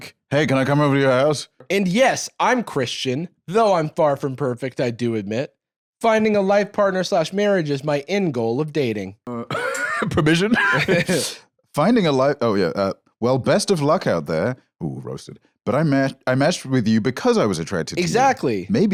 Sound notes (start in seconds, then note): 10.0 laughs